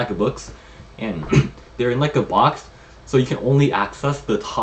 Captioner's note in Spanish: se aclara la garganta